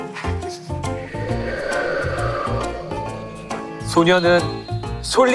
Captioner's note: A sound effect of wind